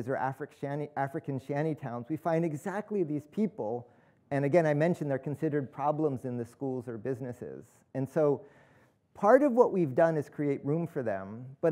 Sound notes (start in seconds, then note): none